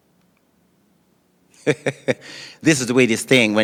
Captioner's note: laughing